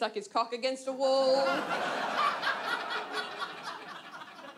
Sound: audience laughs

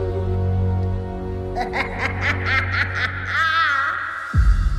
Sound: Ursula laughs

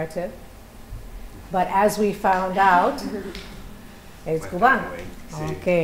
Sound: non-english speech

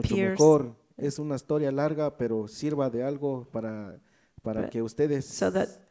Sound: speaks in foreign language

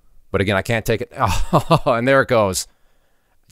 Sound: chuckles

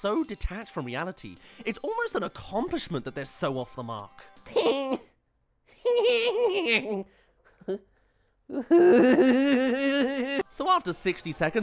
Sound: haha!... ha!... huhhuhhuh

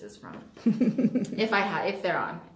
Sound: laughs

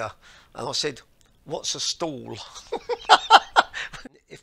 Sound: laughter

